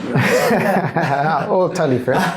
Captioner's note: laughter